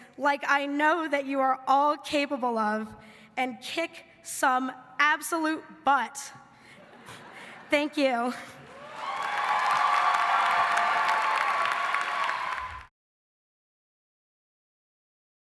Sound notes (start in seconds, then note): 6.8 everybody laughing; 8.6 audience cheering and clapping